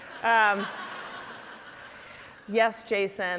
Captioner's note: audience laughing